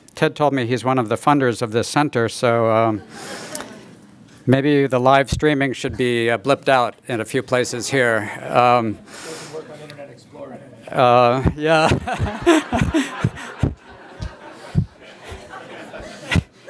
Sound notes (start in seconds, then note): 13.2 laughter